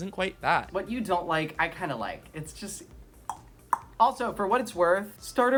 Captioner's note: two tongue clicks